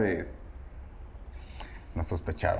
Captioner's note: birds chirping